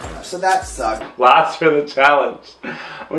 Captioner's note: laughing